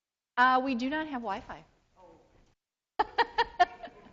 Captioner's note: laughs